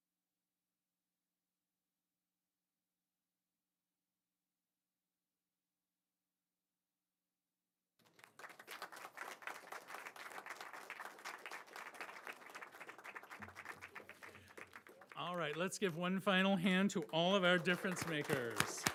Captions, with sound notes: (audience applauding) All right, let's give one final hand to all of our difference makers,